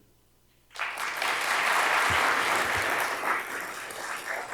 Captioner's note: attendees applauding